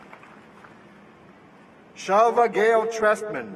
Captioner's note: applause